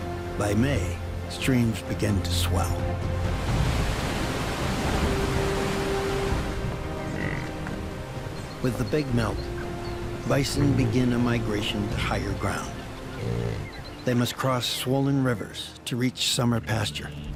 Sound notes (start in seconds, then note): 3.2 dramatic music; 3.2 waves crashing